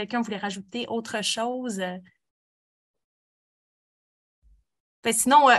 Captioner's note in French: silence